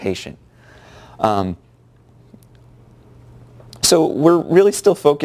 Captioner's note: pause